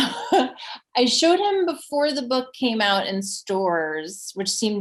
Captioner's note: laughs